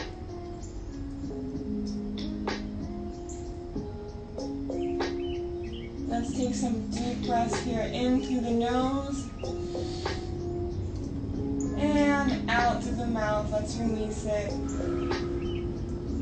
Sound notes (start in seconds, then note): 9.5 inhales